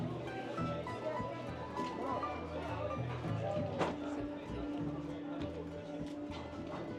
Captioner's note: people chattering